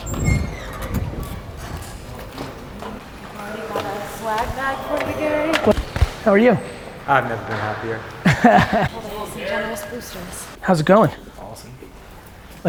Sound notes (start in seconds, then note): 2.4 crowd talking; 8.1 laughter